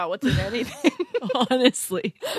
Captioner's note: laughs